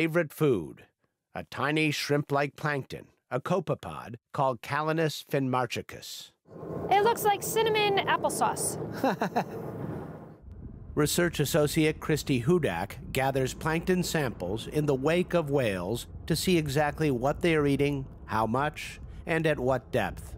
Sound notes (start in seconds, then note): 8.9 laughter